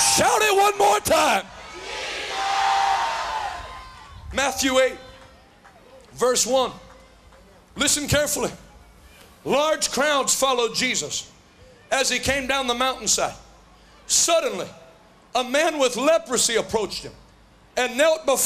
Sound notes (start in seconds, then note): 0.0 Crowd shouting Jesus